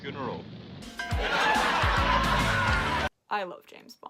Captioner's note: laugh track and sitcom music